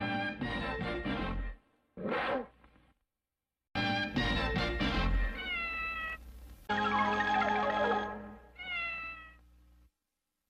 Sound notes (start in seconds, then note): 2.0 Mimsie mewing in a jaguar's roar; 5.2 Mimsie mewing; 8.5 Mimsie mews